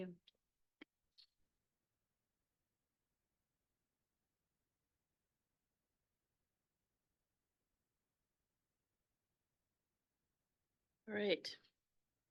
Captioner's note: audio cuts out